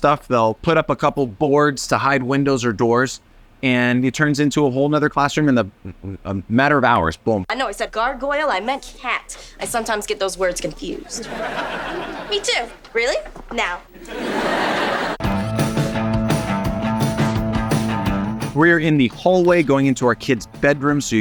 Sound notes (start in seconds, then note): 11.0 audience laughing; 15.2 bright music